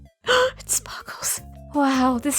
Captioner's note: gasp